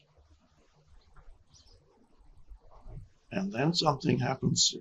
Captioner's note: birds chirping